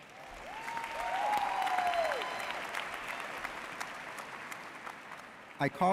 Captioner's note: audience cheering and applauding